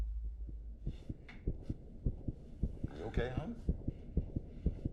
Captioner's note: heart pounding